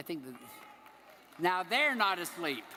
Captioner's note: audience applauding